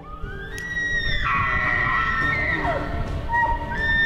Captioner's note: loud animal squeals